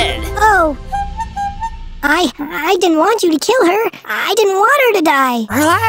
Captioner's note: clown honk sound effect